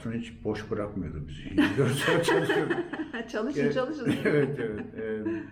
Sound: laughter

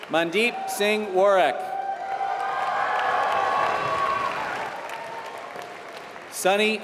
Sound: applause

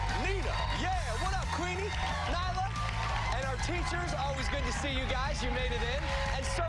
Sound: cheers and applause

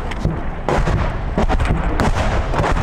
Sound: Grad shelling

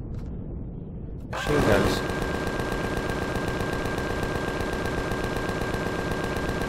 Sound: machine guns

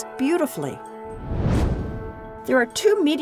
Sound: whoosh

